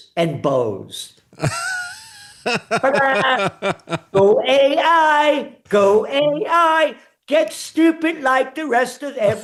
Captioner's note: laughing